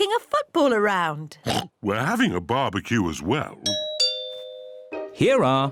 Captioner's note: oinks; doorbell rings